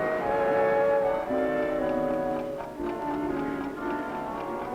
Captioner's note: clock ticking